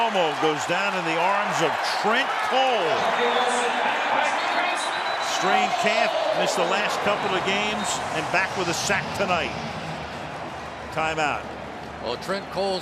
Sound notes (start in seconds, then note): 3.7 pa announcement